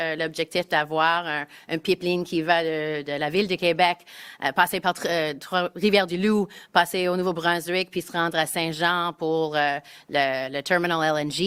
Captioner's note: speaking in French